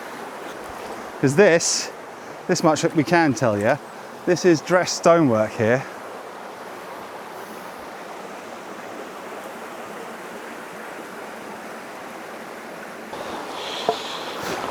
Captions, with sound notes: Because this, this much that we can tell you, this is dressed stonework here. (water splashing)